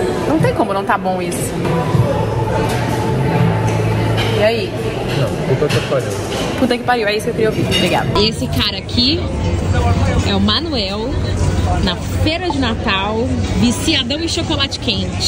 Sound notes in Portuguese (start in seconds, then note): 2.0 ambiência de restaurante